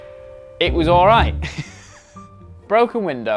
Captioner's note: laughs